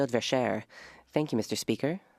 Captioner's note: speaking French